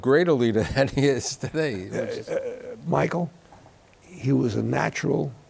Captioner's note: chuckles